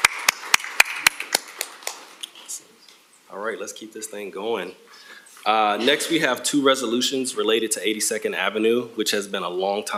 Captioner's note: applause